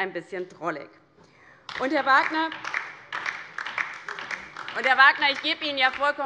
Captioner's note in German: Beifall DIE LINKE